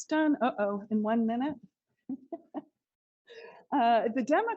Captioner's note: laughs